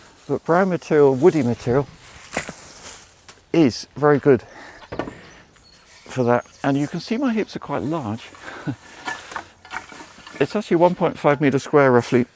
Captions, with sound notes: But brown material-- woody material is very good for that. And you can see my heaps are quite large. [LAUGHS] It's actually a 1.5 meter square, roughly.